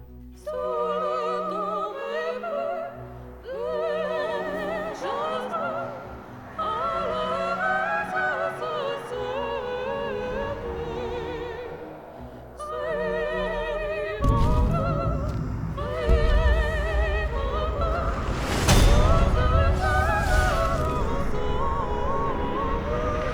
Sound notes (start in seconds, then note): 0.2 non-english singing; 14.1 thud; 18.3 clang; 20.6 muffled growling